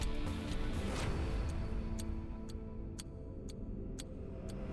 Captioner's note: clock ticking